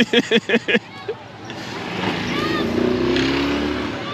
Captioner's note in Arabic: يضحك